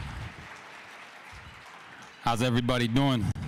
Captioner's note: cheers and applause